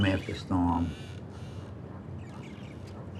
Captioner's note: dock creaking